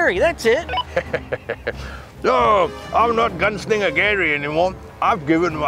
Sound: laughs

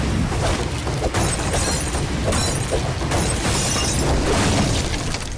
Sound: glass shattering

